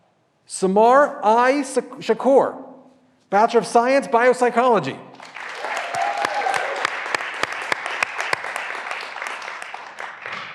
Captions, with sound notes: Samar I. Shaqour, Bachelor of Science, Biopsychology. (graduands cheering and applauding)